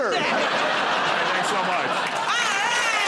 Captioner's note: laughter